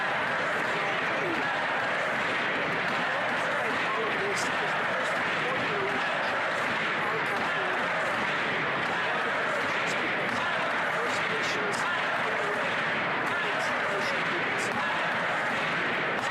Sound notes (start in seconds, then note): 0.3 crowd Noise; 7.3 chanting